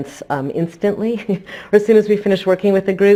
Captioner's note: chuckles lightly